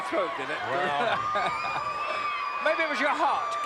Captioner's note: laugh